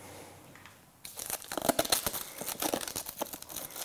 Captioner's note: rustling